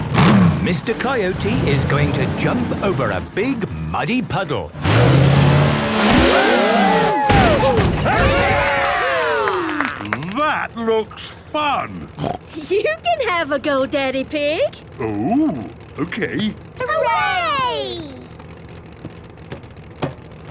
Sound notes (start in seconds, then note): 6.4 crowd; 8.6 applause